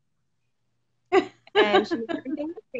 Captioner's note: laughs